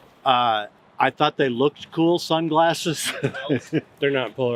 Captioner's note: laughing